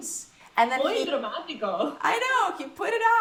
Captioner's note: laughs